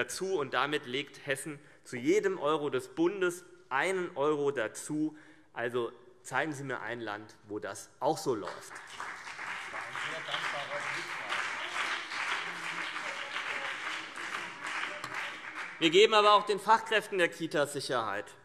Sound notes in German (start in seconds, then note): 8.4 Beifall